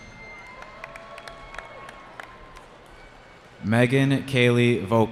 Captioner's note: cheering